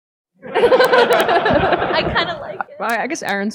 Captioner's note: audience laughing